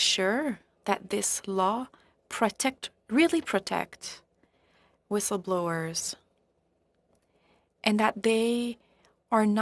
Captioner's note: speaking French